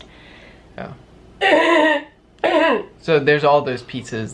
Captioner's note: clears throat